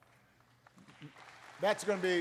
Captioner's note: applause